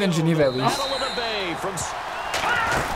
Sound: laughs

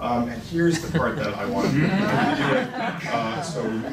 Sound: laughing

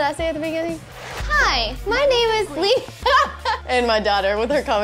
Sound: laughing

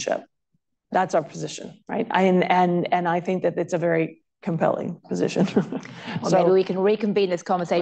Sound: laughter

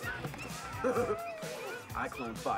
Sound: chuckling

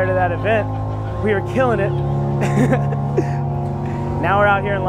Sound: laughs

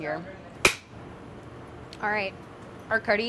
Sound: clapperboard clicks

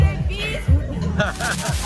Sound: laugh

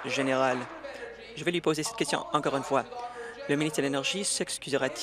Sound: applause

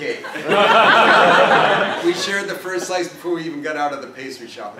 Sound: laugh

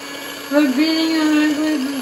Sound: whisking

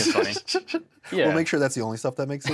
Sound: giggles

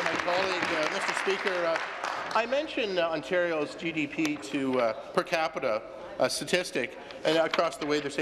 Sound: applause

